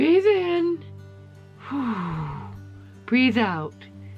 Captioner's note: inhales loudly; exhales